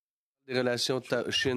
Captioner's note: speaking French